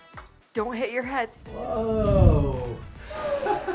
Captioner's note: laughs